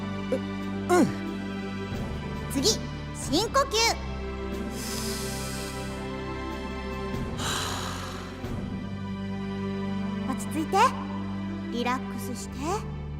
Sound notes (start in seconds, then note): 4.7 inhale; 7.3 exhale